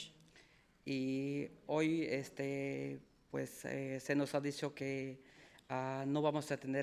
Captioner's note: speaking in foreign language